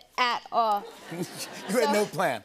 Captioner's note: laughter